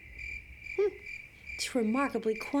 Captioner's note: crickets